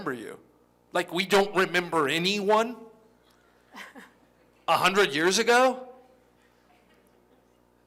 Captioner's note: laughter